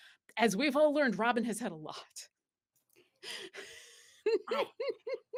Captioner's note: laughs